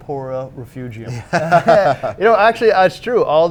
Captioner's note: both laugh